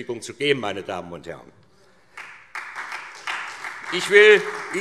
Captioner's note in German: Beifall SPD